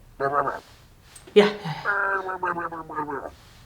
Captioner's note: grumbling